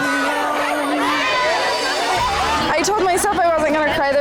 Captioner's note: women cheering